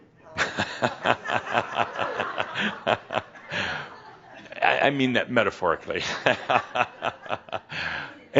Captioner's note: Adamus chuckles and some audience laughter